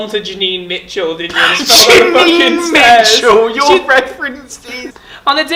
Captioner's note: laughs